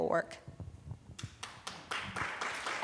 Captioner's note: applause